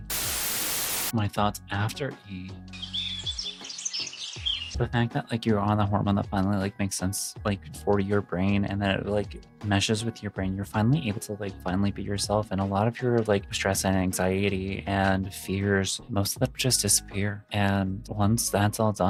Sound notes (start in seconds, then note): 2.7 birds chirping